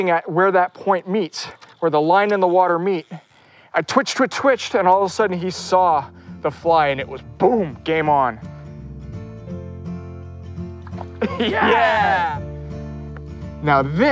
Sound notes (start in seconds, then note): 8.9 relaxing acoustic music; 11.2 excited shouts